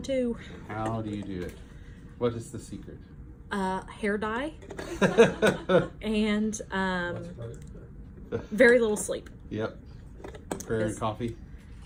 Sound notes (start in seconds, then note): 4.9 laughing